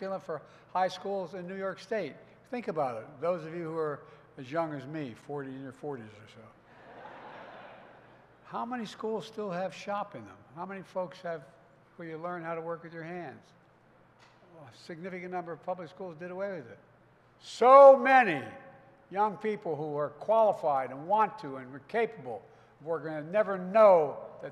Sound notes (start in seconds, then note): 6.7 laughter